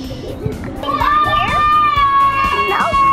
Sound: kids yelling

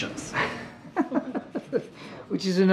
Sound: laughter

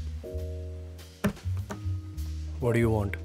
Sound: chair hits the floor

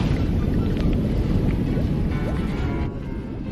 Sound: water bubbling / Boat motors

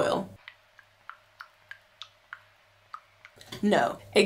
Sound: oil pouring

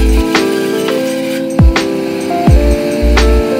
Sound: drill

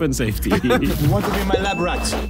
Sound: Vik and Tobi laughing

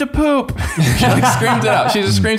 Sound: all laughing

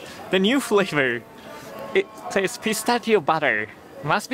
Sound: none

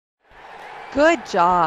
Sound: crowd cheering

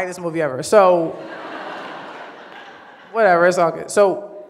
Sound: audience laughs

